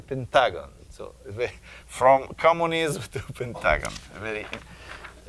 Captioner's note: chuckling